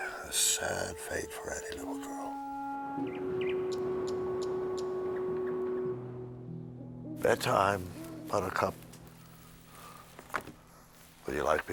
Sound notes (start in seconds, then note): 2.9 bird tweeting; 7.6 owl hooting